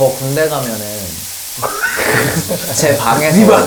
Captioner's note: voice cracking